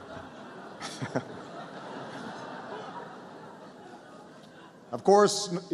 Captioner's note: laughter